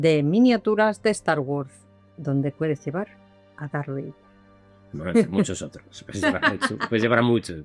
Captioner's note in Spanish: risas